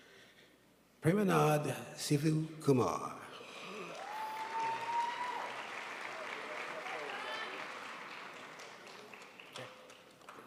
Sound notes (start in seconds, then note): 3.6 crowd applauds